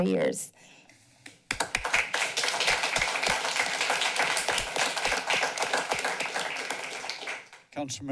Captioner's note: clapping